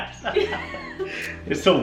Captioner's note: laughing